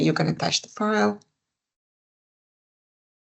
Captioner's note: silence